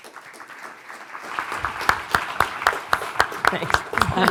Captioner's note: audience applauding